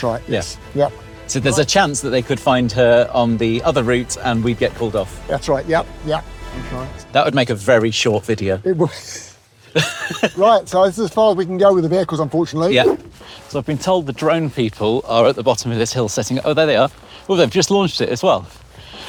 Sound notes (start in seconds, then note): 9.4 wheezes; 9.7 laughs